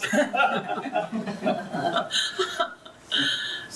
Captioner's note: laughs